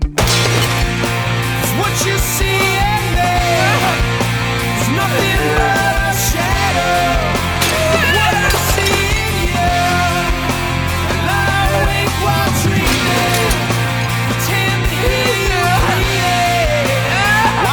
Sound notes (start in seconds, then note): 8.0 Mindy sobbing; 8.0 glass shatters